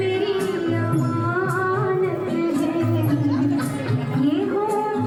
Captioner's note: children chattering